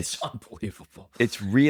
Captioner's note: laughs